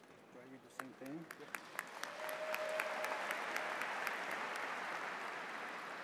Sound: audience applauds

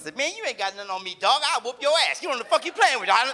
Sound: audience laughs

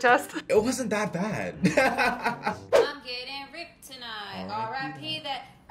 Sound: laughs

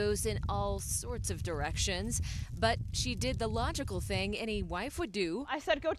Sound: drone

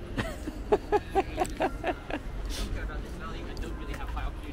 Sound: laughing

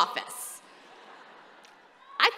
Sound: laughter

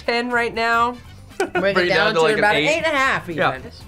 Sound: laughs

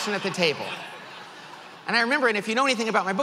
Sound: audience laughs

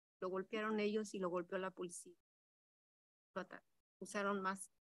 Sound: speaks in Spanish

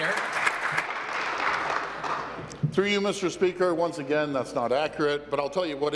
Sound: applause

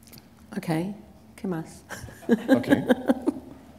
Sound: foreign language; laughter

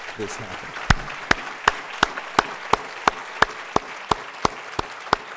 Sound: applause

